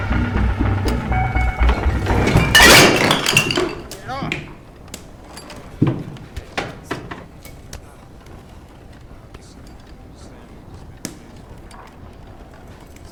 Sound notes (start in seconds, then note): 2.6 loud crash